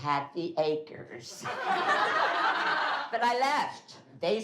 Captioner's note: laughing